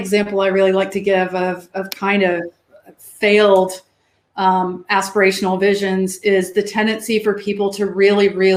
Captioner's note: erm; erm